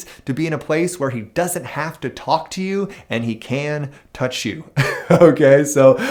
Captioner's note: chuckles